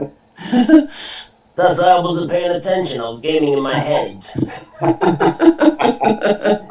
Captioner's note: laughter